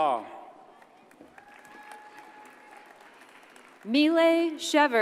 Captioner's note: audience cheers and applauds